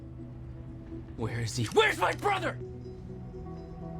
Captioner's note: yelling